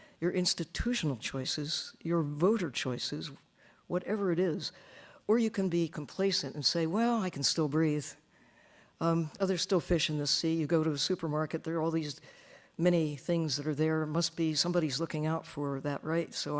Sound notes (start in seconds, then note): none